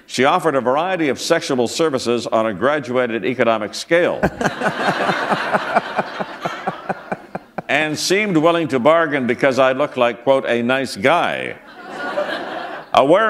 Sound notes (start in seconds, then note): 4.2 laughter